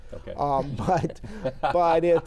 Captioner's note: laughs